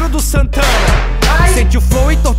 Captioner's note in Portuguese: pow